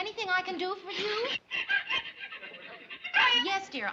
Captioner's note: pickles crying on phone